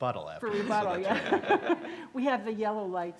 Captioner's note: laughs